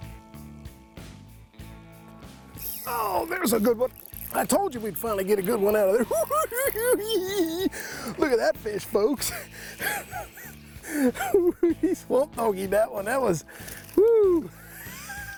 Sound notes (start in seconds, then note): 6.7 cackling; 15.1 chuckles